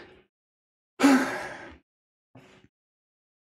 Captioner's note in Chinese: 叹气